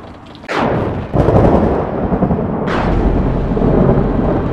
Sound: thunder rumbling

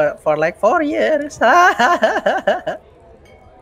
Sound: demented laughter

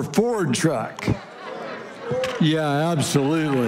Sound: congregation laughing

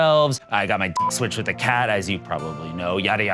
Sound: beep

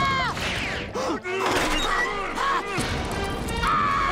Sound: screaming; grunting; screaming

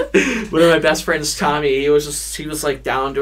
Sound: both laugh

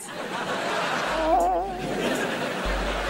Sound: crying

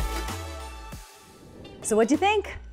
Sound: air whooshing

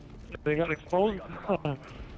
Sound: laughs

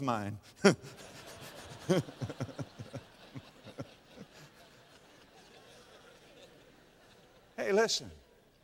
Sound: audience laughter

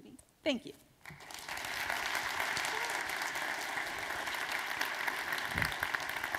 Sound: applause

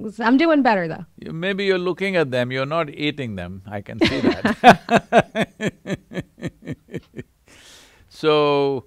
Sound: both laugh

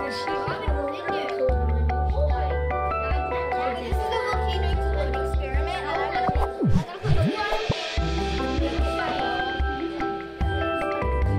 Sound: ambient classroom noises

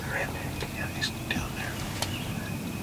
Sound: whispering

